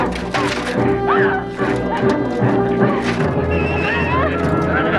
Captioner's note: Hundra yells